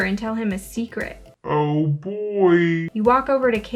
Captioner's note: in weird lower pitch